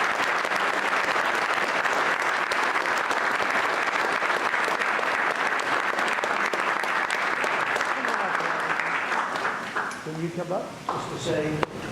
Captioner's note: applause